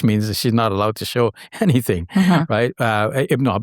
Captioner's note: chuckles